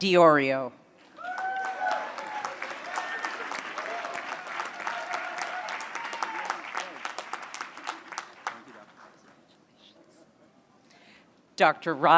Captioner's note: applause